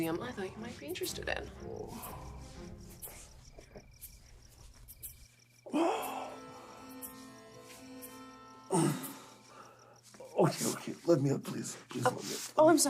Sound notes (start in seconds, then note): 5.7 Radovan moans; 5.7 soft music continues; 8.7 Radovan moans